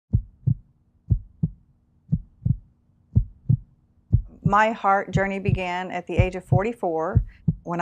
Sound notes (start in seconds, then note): 0.1 heartbeats